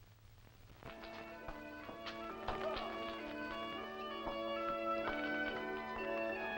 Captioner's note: rock clattering; light music